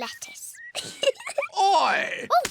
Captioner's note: giggles